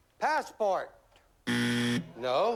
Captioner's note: buzzer